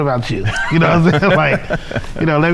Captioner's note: laughing